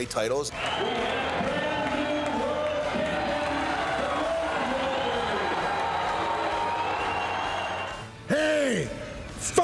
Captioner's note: applause